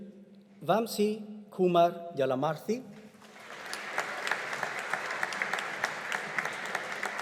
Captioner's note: audience applauding